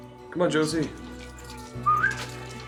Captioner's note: whistles